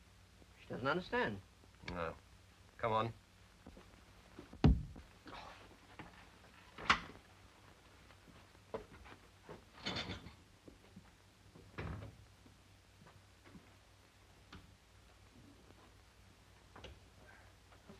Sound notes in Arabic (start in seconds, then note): 4.6 تأوه شارترز; 9.8 خشخشة الخزانة; 11.8 يغلق الباب